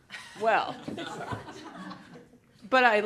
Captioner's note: laughter